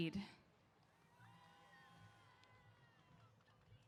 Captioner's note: cheers